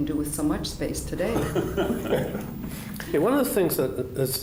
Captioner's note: laughter